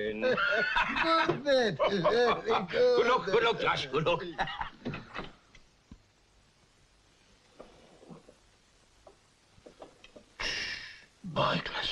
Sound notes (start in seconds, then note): 1.6 both laugh; 4.8 laughs; 5.2 door clicks open